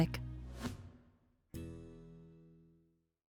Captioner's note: air whooshing